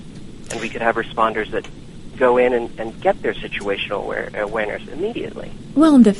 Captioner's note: drone